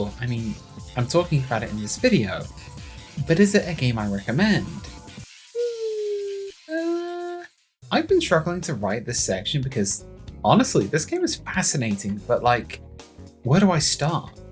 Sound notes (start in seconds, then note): 5.5 makes unsure noises